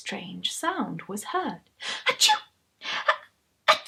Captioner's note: sound of sneezing